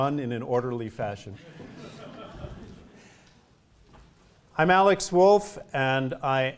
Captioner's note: laugh